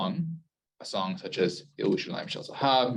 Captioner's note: Hebrew